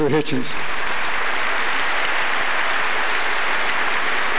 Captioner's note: applause